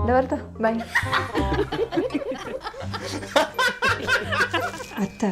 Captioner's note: laughing